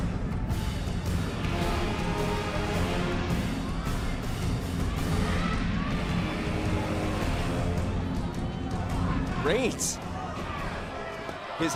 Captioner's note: crowd chatter